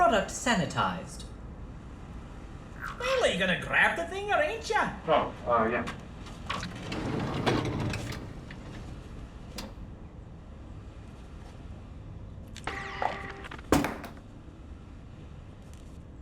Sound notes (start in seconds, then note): 6.3 heavy drawer opening; 12.1 devices rattle; 12.6 mechanical whirring; 13.7 object drops